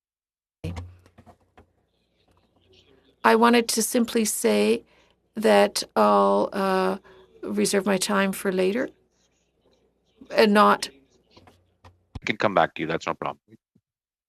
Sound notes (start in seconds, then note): 9.0 speaking French